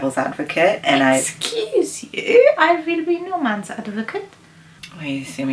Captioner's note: in a french accent